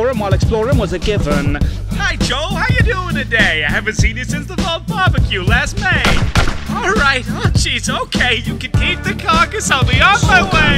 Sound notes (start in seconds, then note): 6.0 gunshots